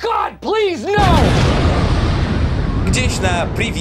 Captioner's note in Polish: boom!